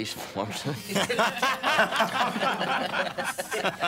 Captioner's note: laughing